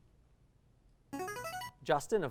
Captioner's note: ringing